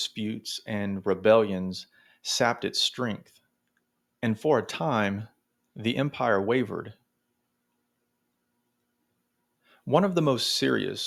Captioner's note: long pause